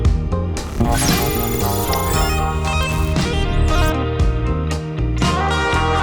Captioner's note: thunder bolt and electronic beeps